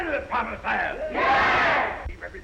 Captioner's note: crowd cheering